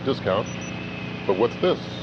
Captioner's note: two random beeps